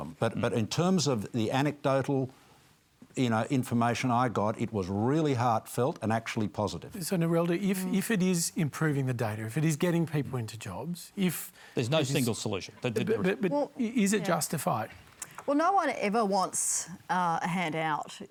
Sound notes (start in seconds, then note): none